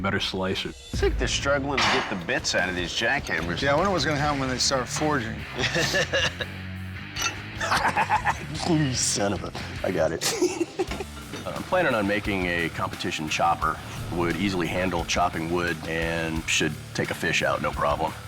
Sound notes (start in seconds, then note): 5.5 laughs; 10.2 laughs